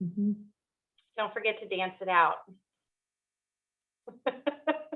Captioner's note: laughing